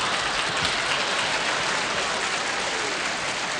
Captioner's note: laughter; applause